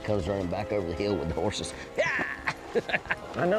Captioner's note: laughs